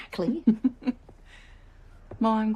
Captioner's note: laughs